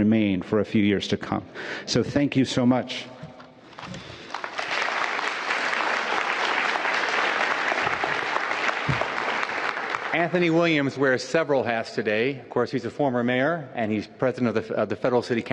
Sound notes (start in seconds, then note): 6.4 applause